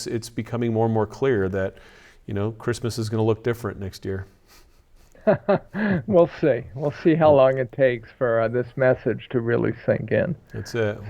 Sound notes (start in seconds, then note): 5.1 laughs